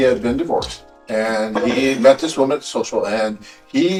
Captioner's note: Ukrainian